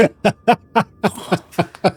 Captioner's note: laugh